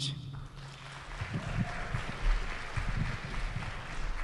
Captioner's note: audience clapping